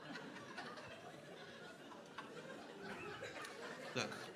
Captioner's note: crowd laughing